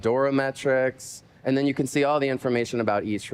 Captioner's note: spanish